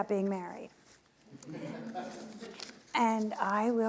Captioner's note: audience laughing